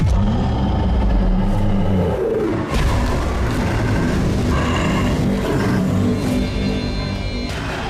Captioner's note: monster growling; intense ominous music